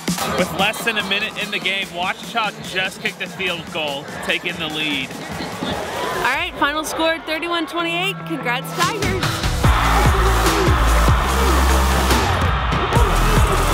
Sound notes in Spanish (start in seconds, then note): 10.8 Crowd Cheers